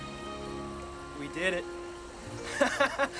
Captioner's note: laughs